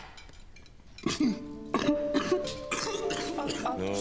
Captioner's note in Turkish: Öksürüyor